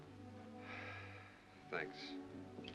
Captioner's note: Owen sighs